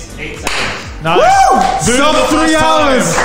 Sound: whoops

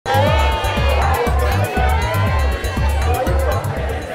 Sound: cheering sounds

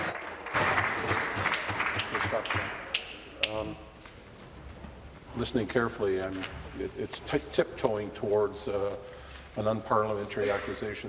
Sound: applause

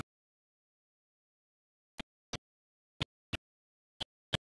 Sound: types on keyboard - entering name

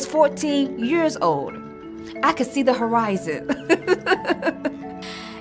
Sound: laughter

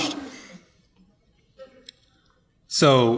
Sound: audience laughing

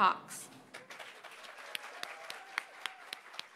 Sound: applause

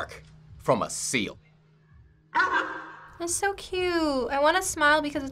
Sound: sea lion bark

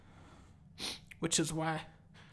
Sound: sniffles

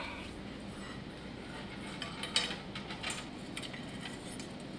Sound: metal scraping

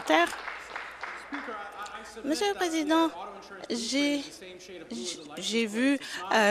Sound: applause

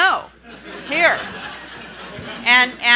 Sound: laughing

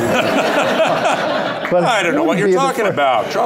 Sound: laughter

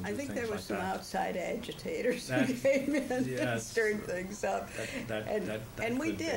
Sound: laughs

